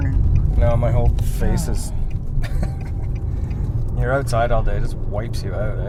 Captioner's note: chuckling